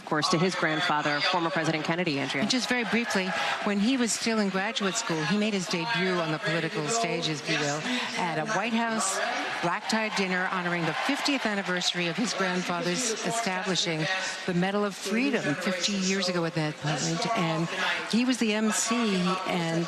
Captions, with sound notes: THANK YOU. >> [ APPLAUSE ] >> JACK SCHLOSSBERG SPEAKING THERE BRIEFLY, MAKING THE CASE FOR KAMALA HARRIS. AND OF COURSE, HIS GRANDFATHER. >> VERY BRIEFLY, WHEN HE WAS IN